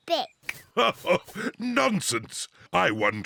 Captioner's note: laughs